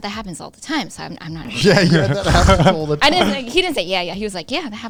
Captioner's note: laughs